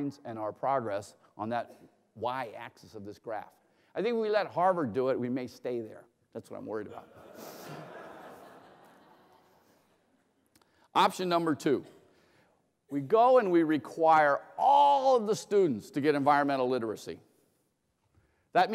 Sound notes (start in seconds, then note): 7.0 laughter